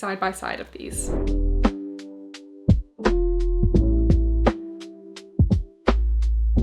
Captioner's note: gentle music; screen whooshing